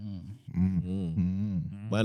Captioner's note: humming